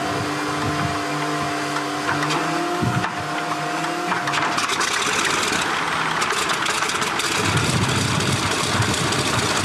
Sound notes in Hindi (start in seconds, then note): 5.7 इंजन चालू होता है